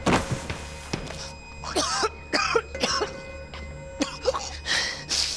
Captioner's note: coughing